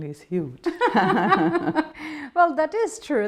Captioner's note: laughing